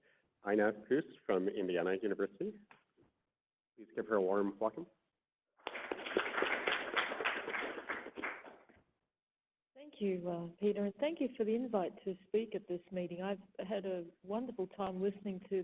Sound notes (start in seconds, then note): 5.6 applause